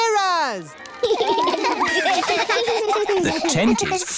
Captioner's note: laughter